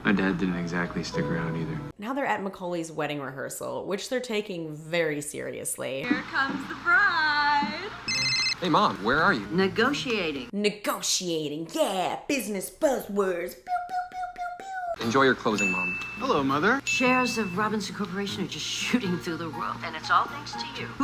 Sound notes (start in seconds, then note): 8.0 phone rings